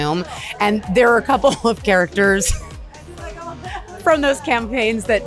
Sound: chuckles

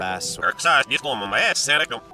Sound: distorted, reversed audio

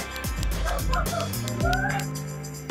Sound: laughter

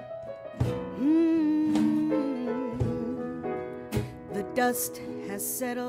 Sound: humming

